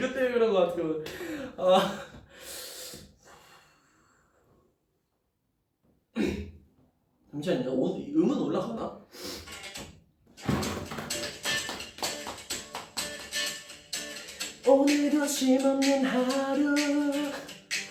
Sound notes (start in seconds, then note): 6.1 clears throat